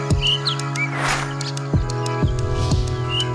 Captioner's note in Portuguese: pássaros cantam